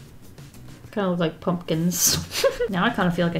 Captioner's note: laughs